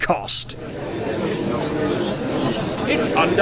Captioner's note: gallery chattering